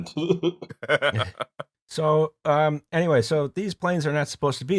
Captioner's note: laughter